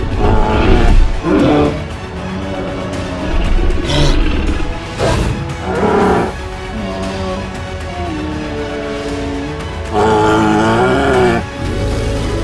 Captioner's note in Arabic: أصوات Triceratops